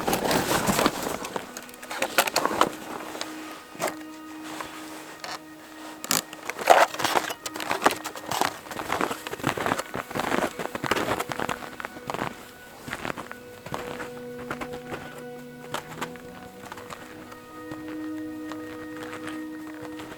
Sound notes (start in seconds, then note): 0.0 footsteps crunching on snow; 0.3 gear rustling; 5.1 strap tightening; 7.0 footsteps crunching